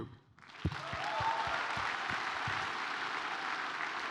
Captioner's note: audience cheering